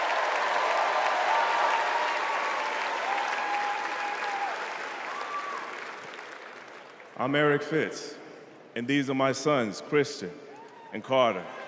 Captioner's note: applause